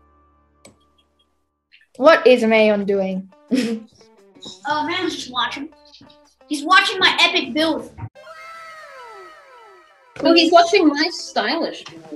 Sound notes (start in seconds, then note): 3.7 giggles; 8.1 echoing whoa sound effect